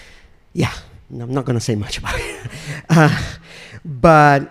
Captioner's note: chuckles